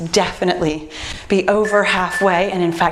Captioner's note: timer beeps